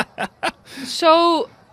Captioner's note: laughter; laughing; laughs